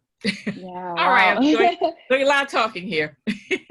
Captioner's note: laugh